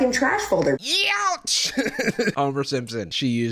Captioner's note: laughs